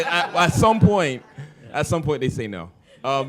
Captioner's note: laughter